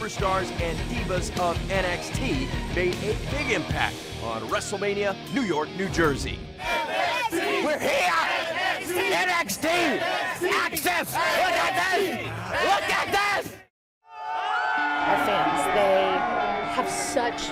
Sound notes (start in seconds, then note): 6.6 crowd cheering